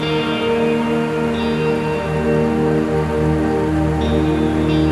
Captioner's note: river running